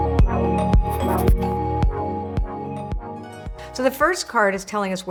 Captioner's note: text scratches